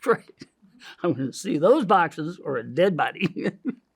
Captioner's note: laughs